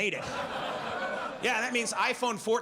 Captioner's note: audience laughs